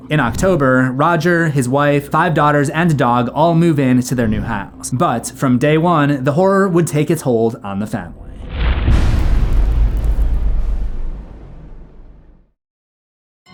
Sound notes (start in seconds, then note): 8.2 impact